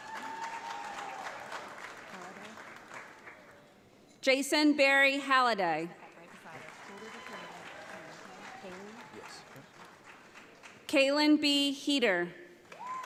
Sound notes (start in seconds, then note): 0.0 audience applauds; 6.0 audience applauds